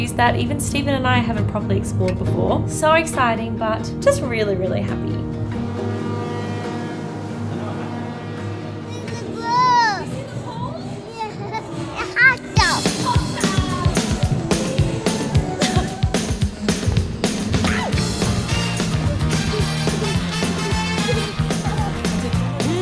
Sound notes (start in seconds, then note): 5.7 horn blowing; 6.3 soft music; 11.6 laughs; 12.8 upbeat music